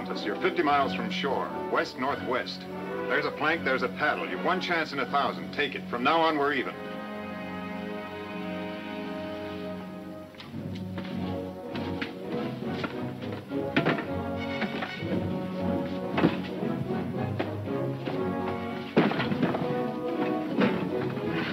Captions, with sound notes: You're 50 miles from shore, west, northwest. There's a plank, there's a paddle. You've one chance in a thousand, take it. From now on we're even. (wood clattering)